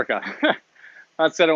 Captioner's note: chuckles